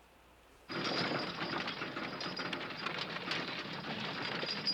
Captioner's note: horse and wagon on gravel road